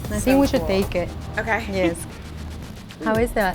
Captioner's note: chuckles